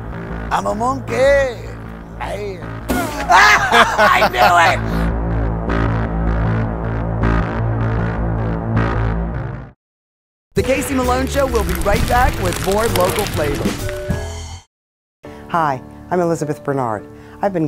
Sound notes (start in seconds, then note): 2.9 laughs; 5.9 dramatic music